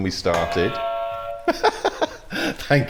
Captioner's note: buzzer